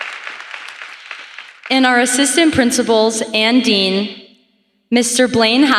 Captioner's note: applause